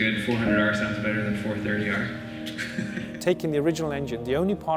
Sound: laughs

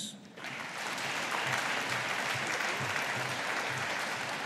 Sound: audience applauding

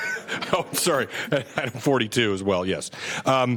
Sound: laughter

